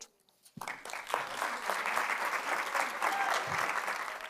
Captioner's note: audience applauds